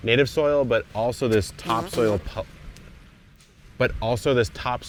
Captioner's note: soil bag flatulating